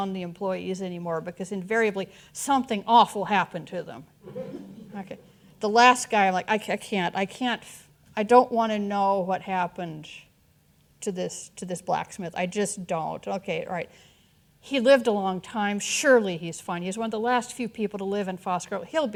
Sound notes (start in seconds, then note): 4.2 audience chuckling